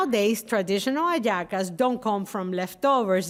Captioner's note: speaking Spanish